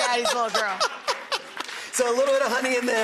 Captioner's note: laughing